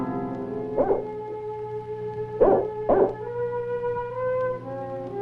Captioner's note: dog barking